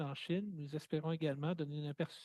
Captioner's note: speaking French